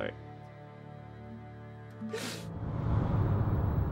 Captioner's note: sobs